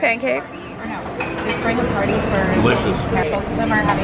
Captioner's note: background chatter